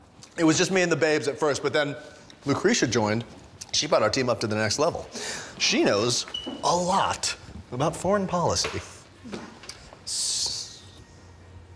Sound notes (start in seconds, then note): none